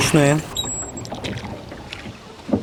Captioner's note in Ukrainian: плеск води